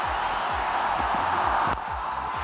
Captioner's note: crowd cheering